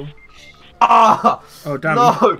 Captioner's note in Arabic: الآهات